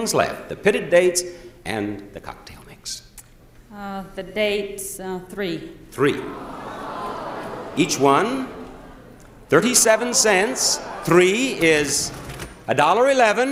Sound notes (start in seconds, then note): 6.0 audience groaning